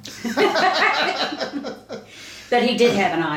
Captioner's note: both laughing